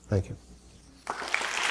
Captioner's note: applause